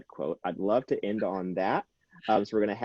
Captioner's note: chuckles